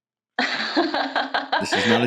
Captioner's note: laugh; laughing